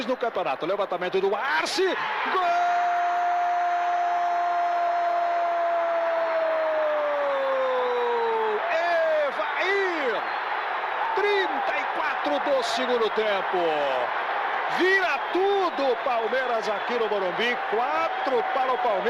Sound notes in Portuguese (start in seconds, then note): 5.7 aplausos